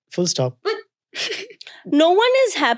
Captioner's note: child chuckling